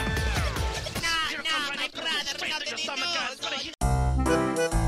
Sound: Wario and Waluigi gibberish

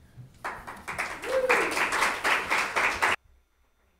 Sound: audience applauds

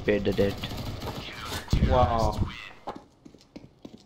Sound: radio

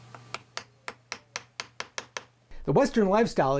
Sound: tapping

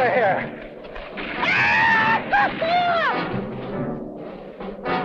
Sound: hooting

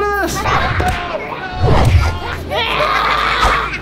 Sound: Heroes laughing

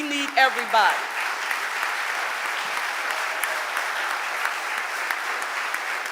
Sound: audience applauding

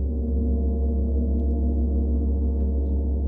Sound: deep gong sounds

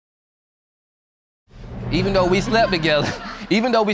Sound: chuckles

